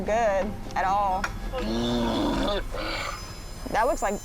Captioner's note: heaving